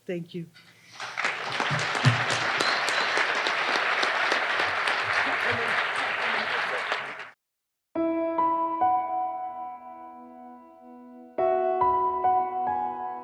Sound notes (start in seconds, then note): 0.8 audience applauding; 8.0 dramatic piano music